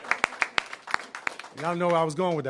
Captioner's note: applause